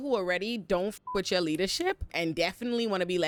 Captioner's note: beep